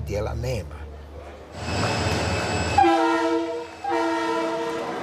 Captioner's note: sound of the train